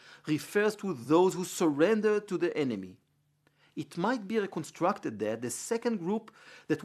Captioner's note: Hebrew